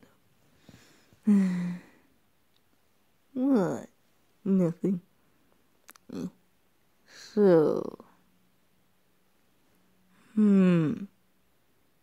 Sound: sigh

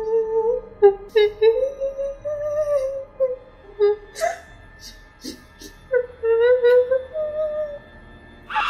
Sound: women crying

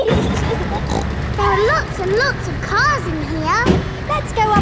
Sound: giggling; snorts

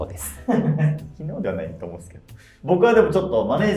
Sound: laughing

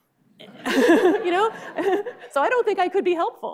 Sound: laughing

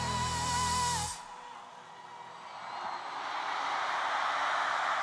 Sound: cheers and applause

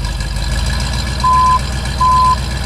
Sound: beeping

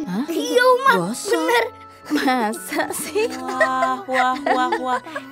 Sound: laughing

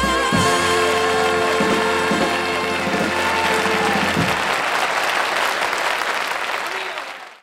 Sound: audience applauds

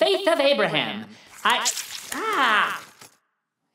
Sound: water squirting

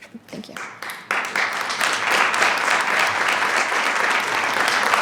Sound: attendees clapping

